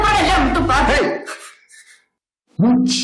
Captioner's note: shouts